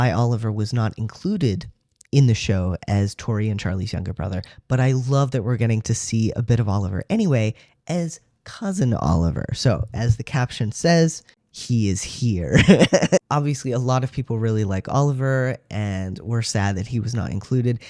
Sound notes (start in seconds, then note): 12.5 laugh